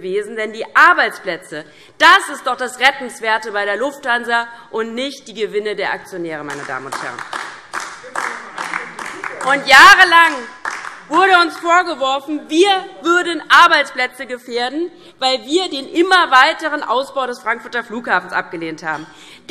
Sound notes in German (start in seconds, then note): 6.5 Beifall DIE LINKE